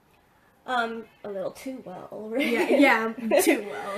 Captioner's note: laughs